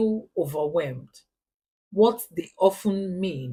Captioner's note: paause